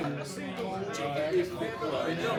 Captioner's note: chattering